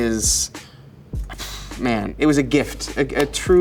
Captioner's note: sighs